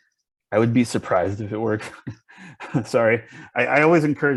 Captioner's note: chuckles